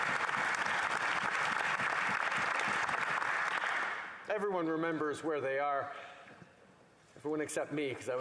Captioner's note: cheering and Applause